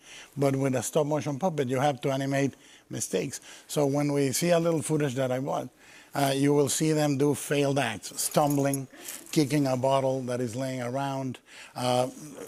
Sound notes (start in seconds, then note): none